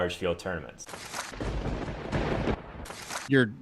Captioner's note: lightning strikes